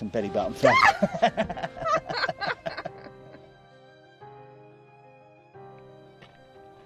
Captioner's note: Michelle screams; laughing